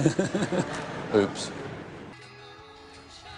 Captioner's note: laughter